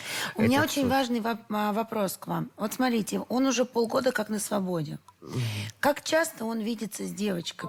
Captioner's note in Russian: фыркает